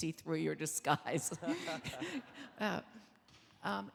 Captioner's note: laughing